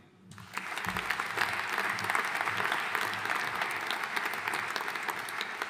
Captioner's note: audience cheering and applauding